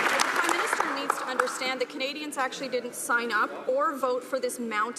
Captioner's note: some Applause